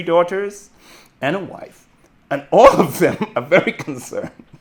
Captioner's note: chuckles